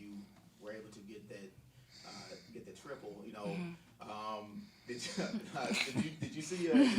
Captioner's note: laughing; laughs